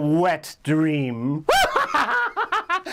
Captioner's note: laughs